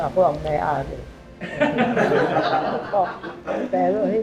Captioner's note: laughs